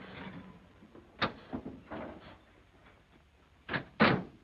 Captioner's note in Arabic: صوت نقر أبواب السيارة; صوت أبواب السيارة